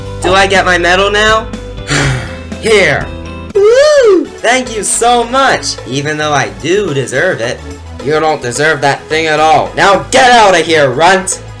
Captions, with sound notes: DO I GET MY MEDAL NOW ? [SIGHING] HERE! OOOHHHHHHH! THANK YOU, SO MUCH! EVEN THOUGH, I DO DESERVE IT. YOU DON'T DESERVE THAT THING AT ALL! NOW, GET OUT OF HERE, RUNT!!